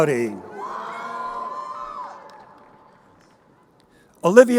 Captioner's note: crowd cheering